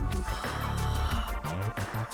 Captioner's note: realizing gasp